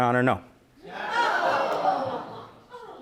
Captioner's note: audience gasps